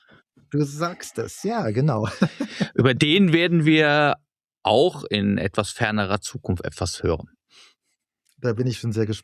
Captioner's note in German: gelächter